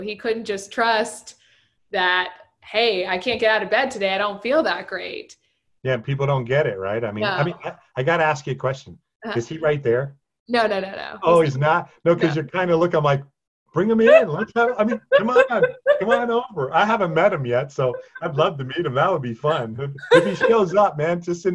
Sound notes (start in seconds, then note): 14.2 laugher drawn words